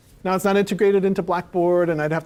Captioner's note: none